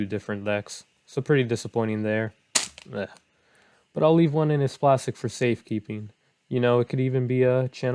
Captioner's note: smack